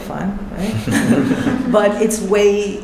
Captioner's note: chuckles